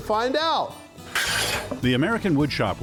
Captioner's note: scraping sound